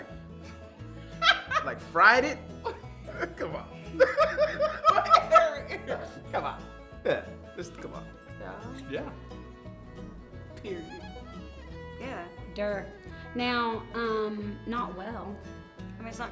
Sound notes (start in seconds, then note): 1.2 woman laughing; 3.8 laughs